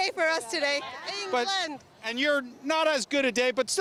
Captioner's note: cheering